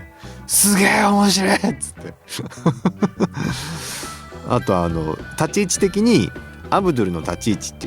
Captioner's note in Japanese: 笑い